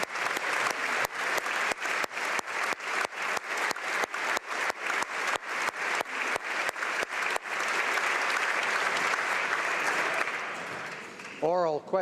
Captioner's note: applause